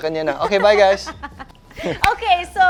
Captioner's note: laughs